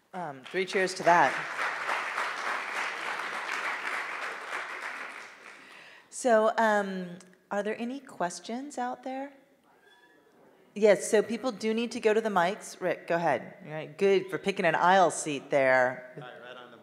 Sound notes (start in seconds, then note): 0.4 audience applauding